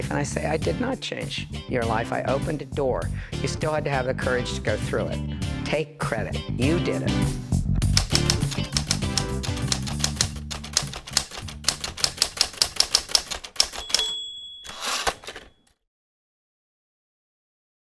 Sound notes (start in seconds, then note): 7.7 upbeat music; 7.9 typewriter clicking; 14.6 typewriter pings and whooshes